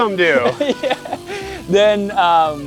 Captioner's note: laughs